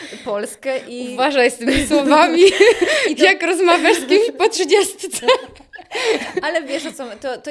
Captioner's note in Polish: śmiech